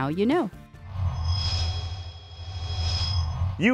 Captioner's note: sound Effects